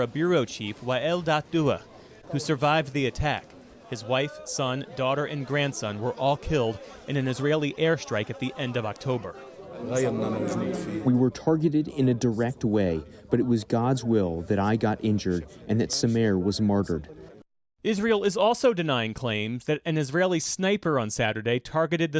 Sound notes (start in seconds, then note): 11.9 through translator